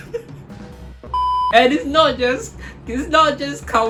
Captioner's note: laughs